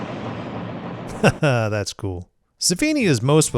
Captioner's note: chuckles